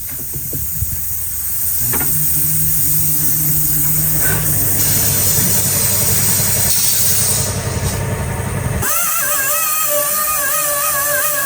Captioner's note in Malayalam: പൊട്ടിച്ചിരി